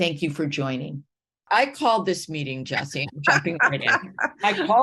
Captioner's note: laughing